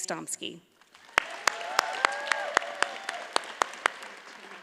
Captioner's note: audience cheers and applauds